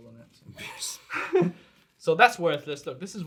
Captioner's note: all laughs